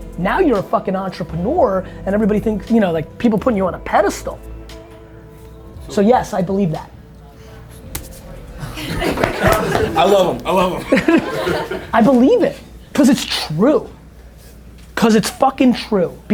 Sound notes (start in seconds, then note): 8.5 group laughter